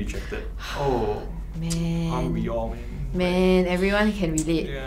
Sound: sighs

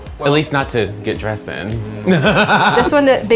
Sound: laughs

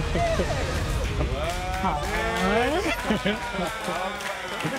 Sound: people clapping

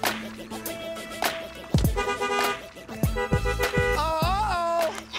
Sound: car honking aggressively

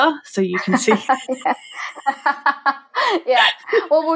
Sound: laughing

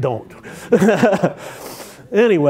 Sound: laughter

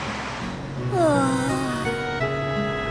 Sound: sighs

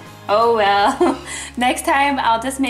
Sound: laughing

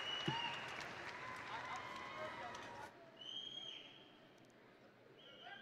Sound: audience members whistling

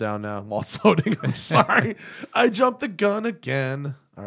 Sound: laughter

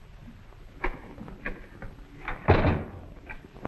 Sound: door opens and closes

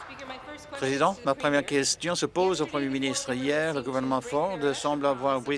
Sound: applause

